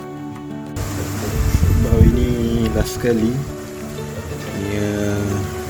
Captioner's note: rainy sound in background